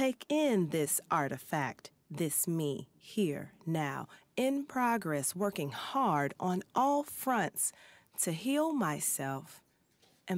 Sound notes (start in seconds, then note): none